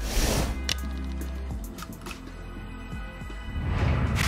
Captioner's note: city sounds